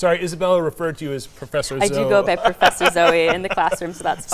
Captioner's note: laughing